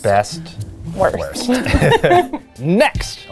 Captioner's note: laughs